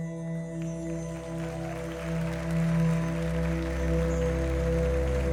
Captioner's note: audience applauding